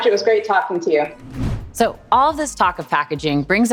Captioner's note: whoosh